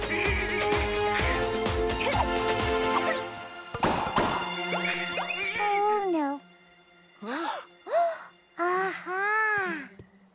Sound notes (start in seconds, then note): 1.5 grunting; 7.2 all gasp